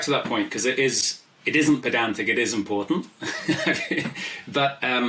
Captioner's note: laughs